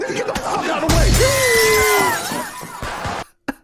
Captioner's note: me Laughingggg